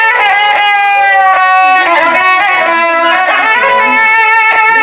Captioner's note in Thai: ปรบมือ